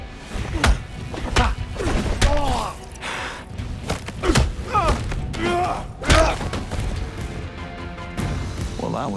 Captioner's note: groaning